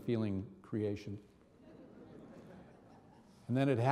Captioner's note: audience laughing